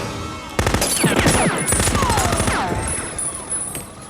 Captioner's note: machine gun firing